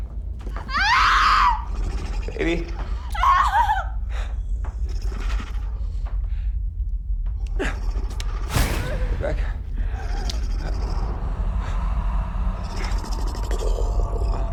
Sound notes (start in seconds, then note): 0.4 growling; 4.6 growling; 9.8 growling